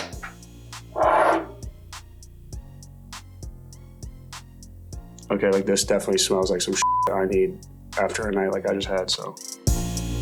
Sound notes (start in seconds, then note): 6.8 beep; 9.9 bright upbeat music